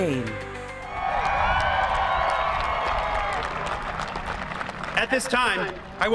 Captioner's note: applause